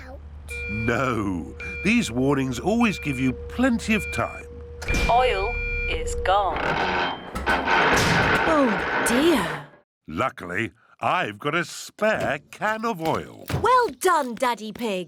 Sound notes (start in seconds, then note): 6.4 creaking